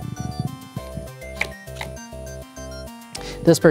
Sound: cards slapping

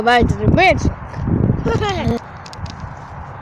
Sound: laughing

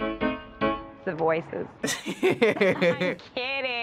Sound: chuckling

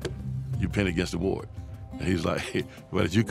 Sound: slaps table

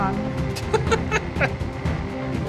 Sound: laughing

